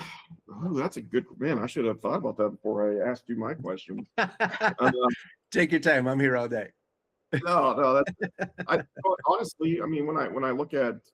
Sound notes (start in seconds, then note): 4.0 laughing